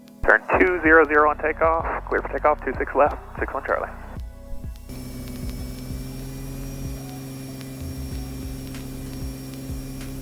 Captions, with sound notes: - Turn 200 on takeoff, clear for takeoff, 26 left, 61 Charlie. (plane engine rumbling)